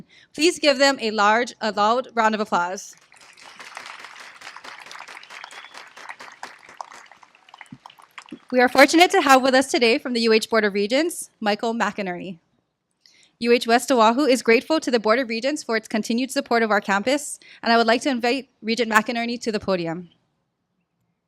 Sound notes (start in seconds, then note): 2.9 applause